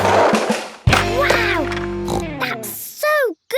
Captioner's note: snorts